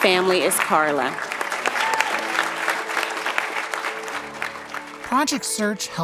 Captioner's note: cheering and applause